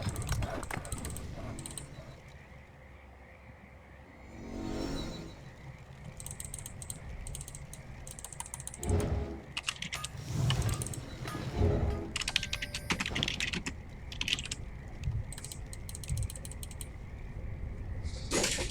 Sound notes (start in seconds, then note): 9.2 typing sounds